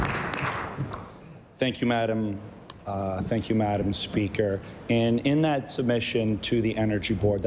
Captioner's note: applause